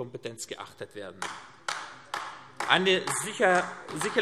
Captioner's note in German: Beifall AfD